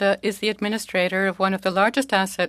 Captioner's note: speaking French